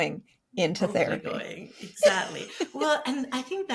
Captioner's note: both laugh